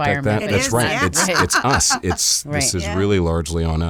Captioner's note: laughs